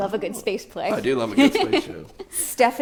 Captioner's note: laughs